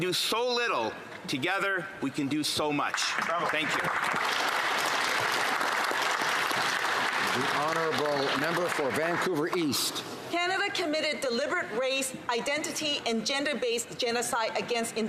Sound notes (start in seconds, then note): 8.4 some Applause